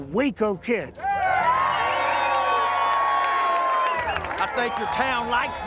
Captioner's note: crowd cheering